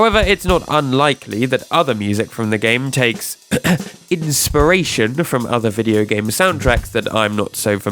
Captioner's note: ahem